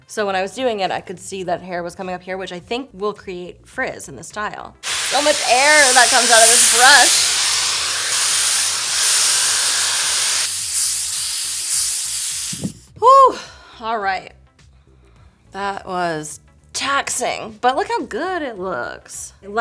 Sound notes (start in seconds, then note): 4.8 dryer whirs